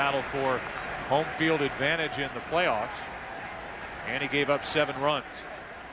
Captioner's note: cheers and applause